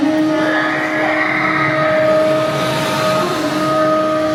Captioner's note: horn blowing